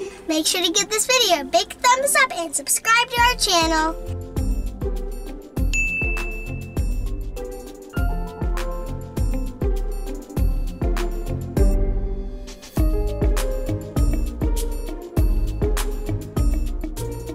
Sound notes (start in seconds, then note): 5.7 ding; 8.0 easy listening music